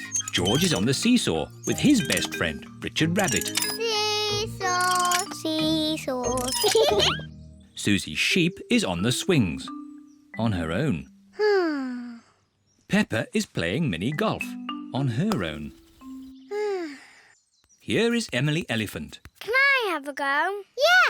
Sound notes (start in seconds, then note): 6.6 both laugh; 11.7 sighs; 16.6 sighs